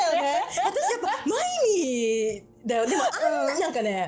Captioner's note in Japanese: 笑い